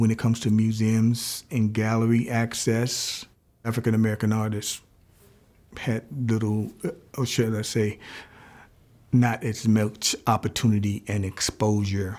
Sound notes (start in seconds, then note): none